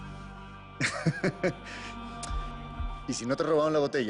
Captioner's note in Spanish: Risas